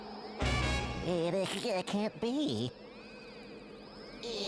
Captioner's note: stuttering